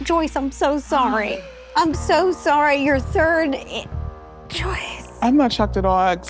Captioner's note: whispers